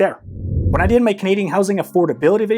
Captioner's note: screen whooshing